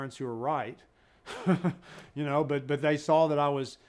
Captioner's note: laughs